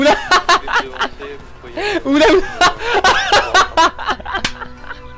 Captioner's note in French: rires